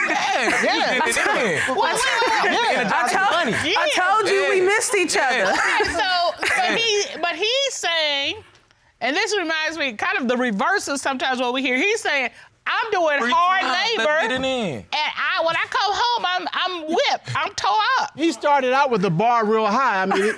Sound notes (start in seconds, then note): 0.0 laughs; 0.0 indistinct chatter